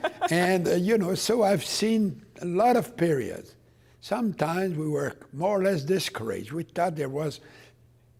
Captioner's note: laughter